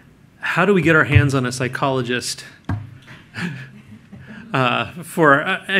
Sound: laughter

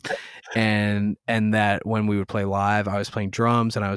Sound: laughter

